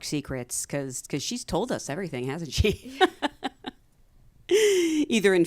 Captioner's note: laughs